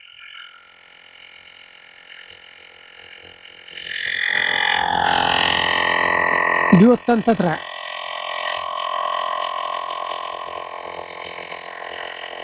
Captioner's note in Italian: Applauso